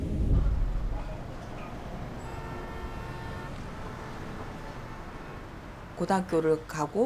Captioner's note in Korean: 복잡한 도시 소음과 차 경적 소리